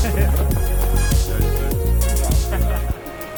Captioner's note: laughing; chattering; upbeat music